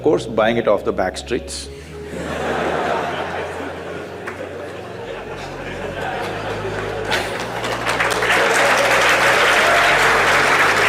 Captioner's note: laughter/Applause